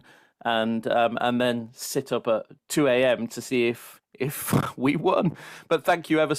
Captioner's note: chuckles